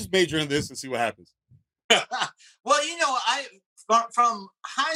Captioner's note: laughing